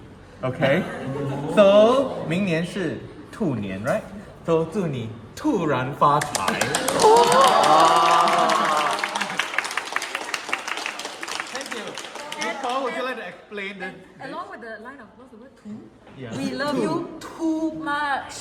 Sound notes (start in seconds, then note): 6.2 claps; 6.7 exclaims